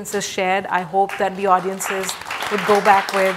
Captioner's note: audience applauds